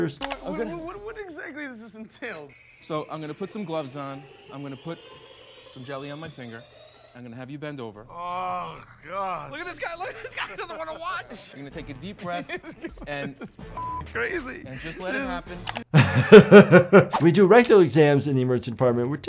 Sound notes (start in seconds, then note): 13.5 giggling; 13.7 beep; 16.1 laughs